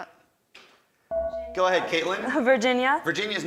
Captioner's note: buzzer dings